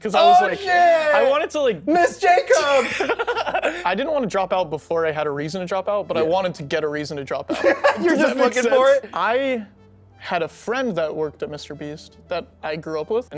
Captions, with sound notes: Oh, shit. Ms. Jacob. [laughs] I didn't want to drop out before I had a reason to drop out, but I wanted to get a reason to drop out. [laughs] You're just looking for it? I had a friend that worked at MrBeast that I grew up with.